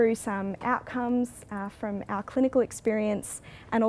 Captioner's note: none